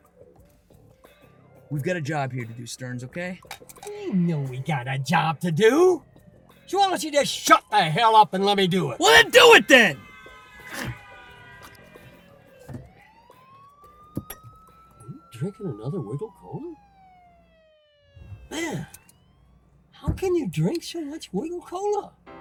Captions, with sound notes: - We've got a job here to do Sterns, okay? - I know we got a job to do. So why won't you just shut the hell up and let me do it?! - Well, then do it, then! (horn blaring) (siren wailing) - Are you drinking another Wiggle Cola? Man, how can you drink so much Wiggle Cola?